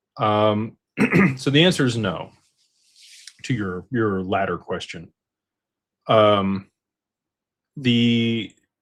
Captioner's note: clears throat